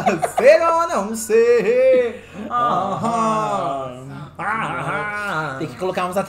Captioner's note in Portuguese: cantarolam; cantarolam